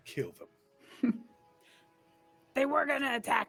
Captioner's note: laughs